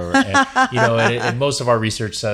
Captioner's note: laughs